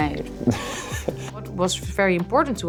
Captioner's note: Harris laughing; laughing